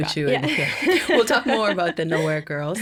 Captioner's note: laughing